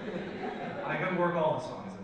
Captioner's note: audience laughs